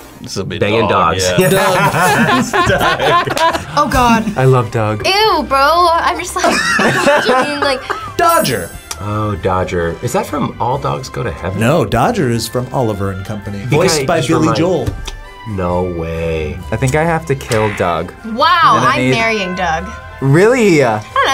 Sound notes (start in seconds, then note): 1.3 laughs; 1.3 both laugh; 6.3 both laugh